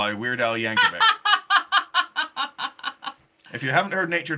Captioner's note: laughing